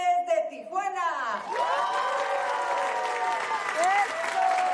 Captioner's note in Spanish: Aplausos